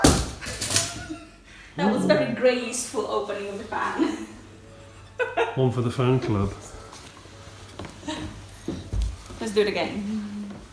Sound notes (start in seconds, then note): 8.0 woman laughs